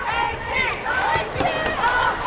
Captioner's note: crowd